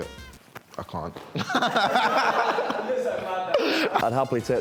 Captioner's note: laughs